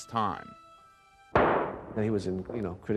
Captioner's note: gunshot banging